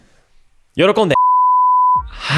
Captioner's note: beep